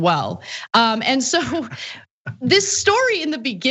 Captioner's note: laugh